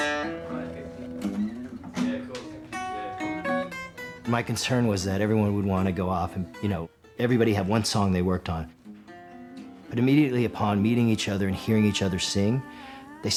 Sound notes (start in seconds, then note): 0.3 people chatting